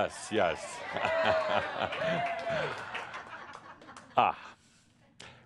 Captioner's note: audience approval and applause